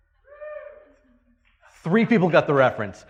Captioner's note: person cheering